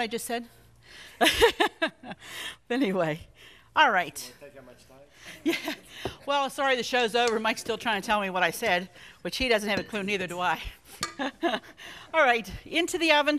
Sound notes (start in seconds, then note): 2.0 laughs; 11.3 laughs